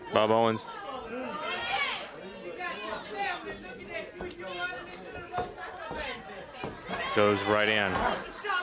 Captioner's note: crowd chatter